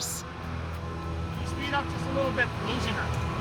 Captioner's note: device beeping at low pitch